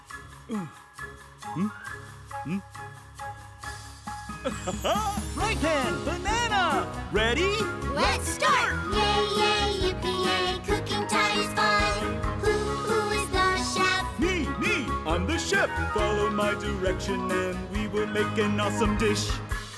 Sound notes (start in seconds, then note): 4.3 chuckles